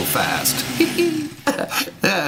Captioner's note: laugh